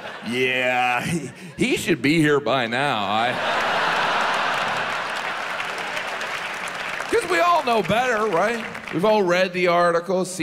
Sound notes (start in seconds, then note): 3.0 audience laughs; 5.5 audience applauds